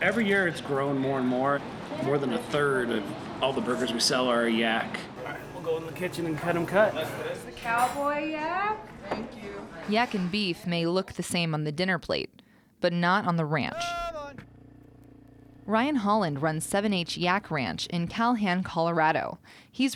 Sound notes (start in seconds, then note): 10.2 voiceover; 14.0 man shouting